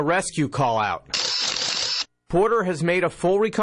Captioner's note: camera snapping